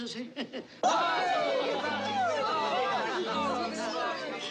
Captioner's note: CHATTERlNG